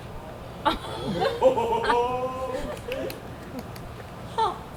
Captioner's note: audience laughs